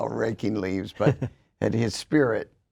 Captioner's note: chuckles